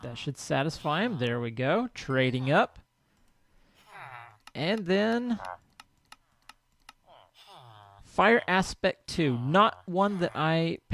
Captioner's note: chattering continues